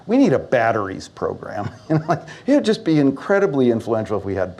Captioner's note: laughs